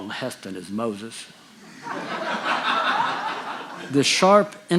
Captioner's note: audience laughing